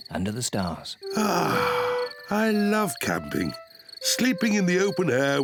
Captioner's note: sighs